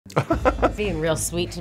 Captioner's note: laughs